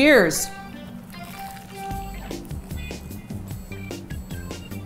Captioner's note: crispy bread crunching